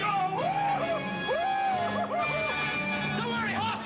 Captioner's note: yelling